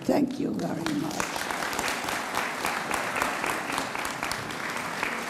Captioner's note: audience applauds